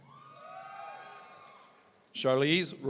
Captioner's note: audience cheering